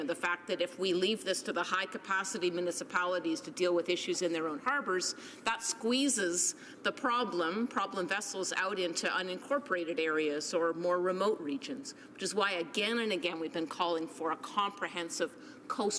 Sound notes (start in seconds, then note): none